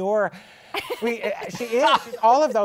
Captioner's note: laughter